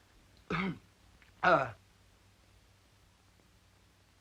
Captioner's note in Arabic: يصفي حلقه